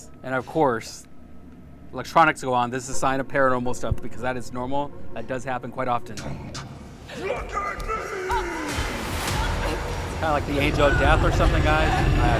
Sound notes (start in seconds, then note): 8.0 groaning; 8.2 body crashing